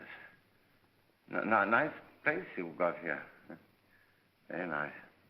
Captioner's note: stammering